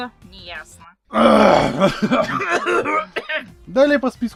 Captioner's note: sounds of old people clearing their throats